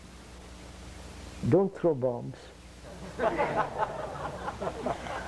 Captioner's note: laughter